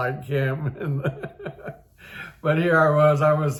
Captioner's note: laughs